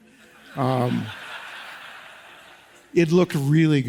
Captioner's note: audience laughs